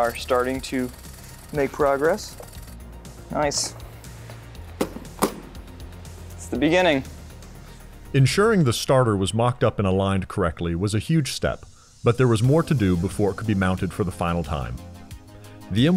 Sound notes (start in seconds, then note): 4.8 tool hitting table; 8.2 voiceover